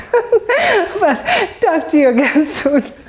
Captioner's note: laugh